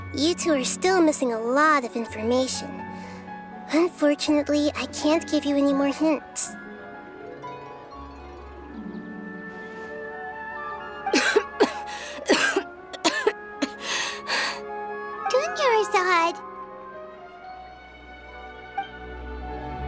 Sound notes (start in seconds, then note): 10.9 cough